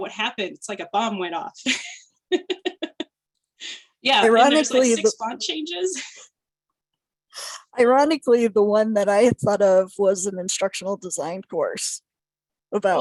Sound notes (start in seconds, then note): 1.6 laughter